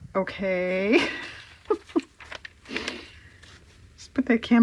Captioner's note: laughs